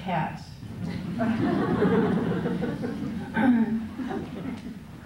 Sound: laughter

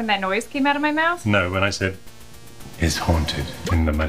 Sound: echoing

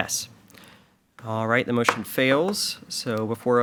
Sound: gavel pounds

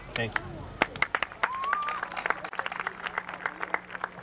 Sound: applause

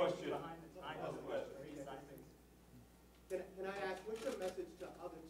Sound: random chatter

